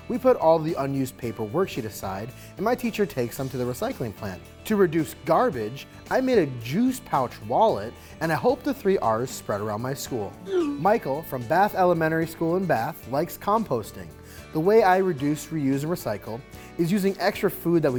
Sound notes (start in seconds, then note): 10.4 message whooshing